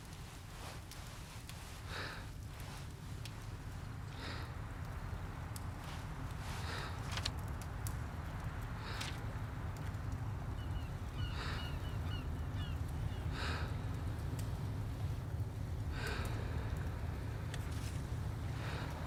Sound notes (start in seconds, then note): 2.5 heavy breathing